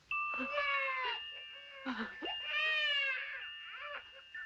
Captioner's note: baby cries